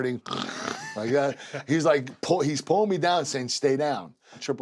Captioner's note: laugh